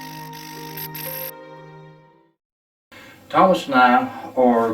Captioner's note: static fizzing